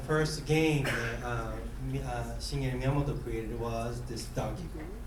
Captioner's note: coughing